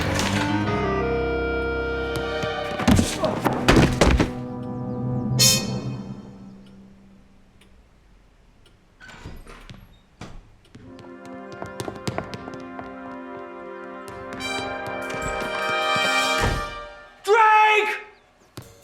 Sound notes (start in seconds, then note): 2.6 thudding; 8.9 door squeaking; 12.3 dramatic music